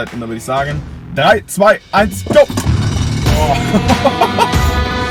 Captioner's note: laugh